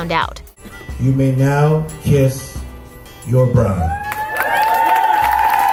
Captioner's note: cheers